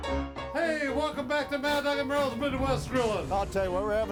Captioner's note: food sizzling